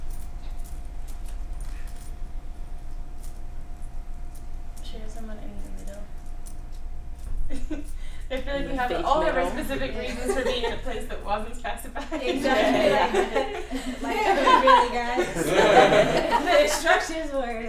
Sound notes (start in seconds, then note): 7.5 laughs; 12.0 laughter